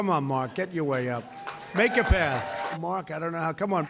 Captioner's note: applause